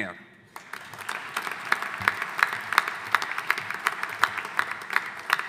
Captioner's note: audience applauding